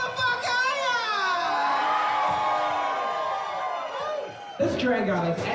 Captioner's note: cheering